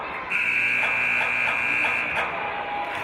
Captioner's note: buzzer